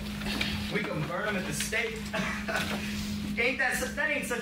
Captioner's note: laughs